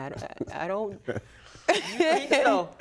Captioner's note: laughing